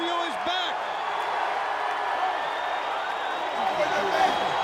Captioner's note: audience cheering